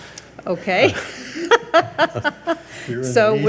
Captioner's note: laughs